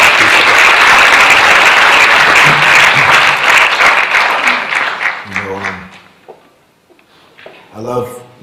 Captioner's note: applause